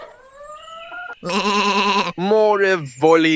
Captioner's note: sheep bleats